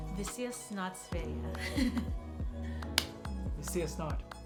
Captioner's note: Speaks Swedish